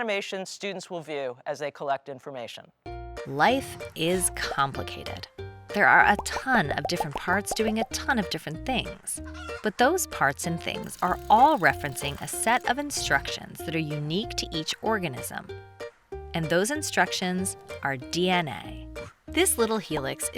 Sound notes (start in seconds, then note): 4.1 light bouncy music; 6.0 circles popping